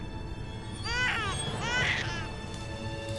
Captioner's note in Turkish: Osman ağlama sesi